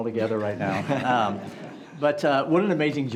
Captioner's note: group laughs